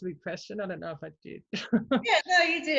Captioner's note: chuckles